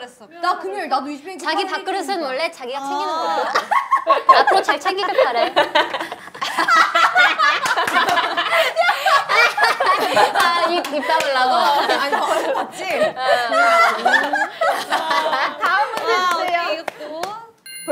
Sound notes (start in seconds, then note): 3.7 laughing; 7.5 laughing; 8.7 sassy; 9.9 laughing